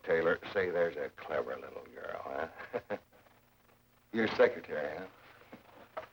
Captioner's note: chuckles